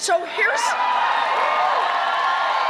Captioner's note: cheering and applause